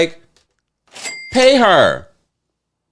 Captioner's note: bell ringing